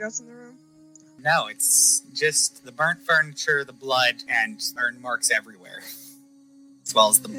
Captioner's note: chuckles